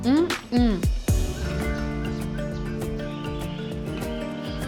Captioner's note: birds chirping